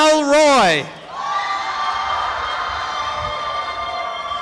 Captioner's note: applause and cheering